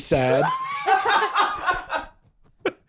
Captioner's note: laughs